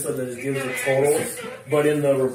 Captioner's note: radio chatter